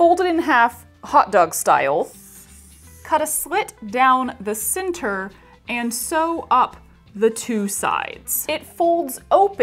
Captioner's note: marker on whiteboard sound